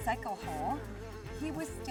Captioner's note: fly buzzes